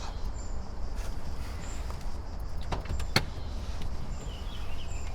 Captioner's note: birds chirping